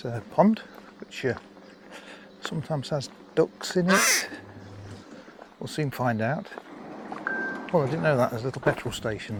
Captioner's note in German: quack